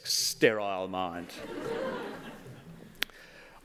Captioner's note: laughter